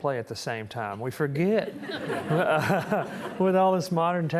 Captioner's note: audience chuckling